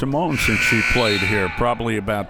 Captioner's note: whistle; buzzer